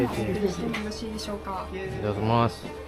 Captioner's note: speaking Japanese